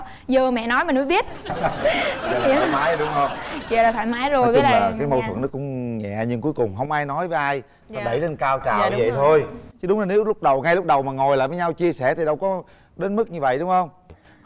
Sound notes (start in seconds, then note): 1.3 laughing